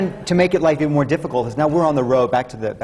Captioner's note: laughs